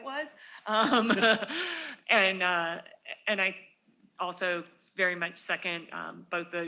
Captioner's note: laughs